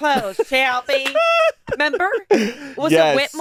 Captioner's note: laughing